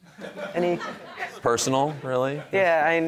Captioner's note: audience laughing